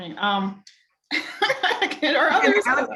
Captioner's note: laughing